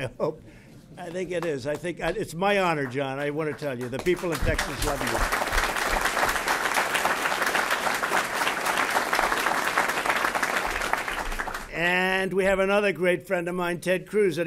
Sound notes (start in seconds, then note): 0.0 laughs; 0.0 laughter; 5.7 applause